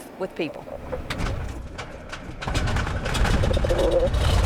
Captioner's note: engine starts